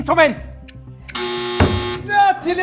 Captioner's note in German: Buzzer